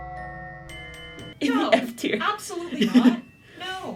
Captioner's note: laughter